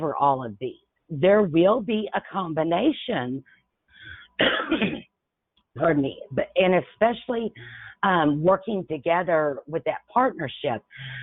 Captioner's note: coughs